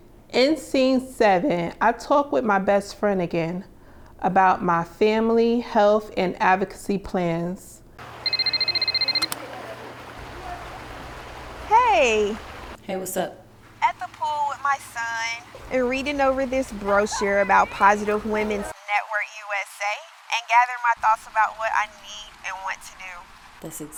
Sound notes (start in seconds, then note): 8.0 phone rings